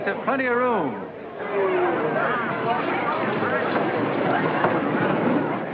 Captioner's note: chatter